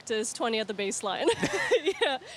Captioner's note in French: laughs